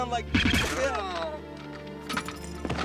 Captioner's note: gun firing with silencer; gasping